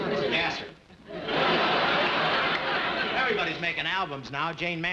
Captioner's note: audience laughing